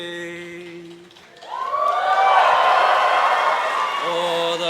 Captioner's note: audience cheers